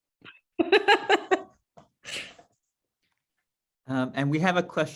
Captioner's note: laughs